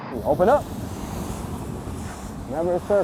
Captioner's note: water whoosing